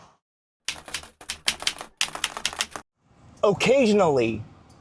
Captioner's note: keyboard keys clicking